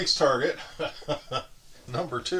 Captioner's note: laughing